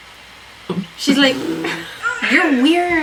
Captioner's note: laughs